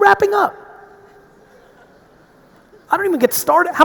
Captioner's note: audience laughing